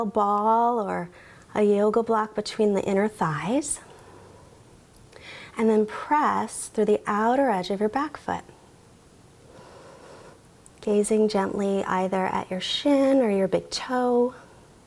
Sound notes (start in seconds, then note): 9.5 inhales